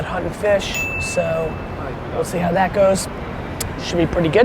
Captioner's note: bell ding